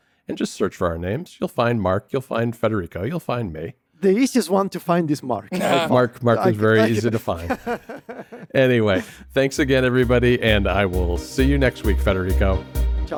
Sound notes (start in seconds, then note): 6.3 laughs